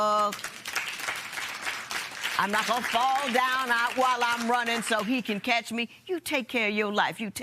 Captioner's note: applause